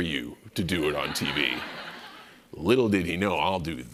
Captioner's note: laughter